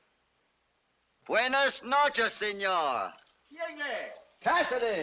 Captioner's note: in spanish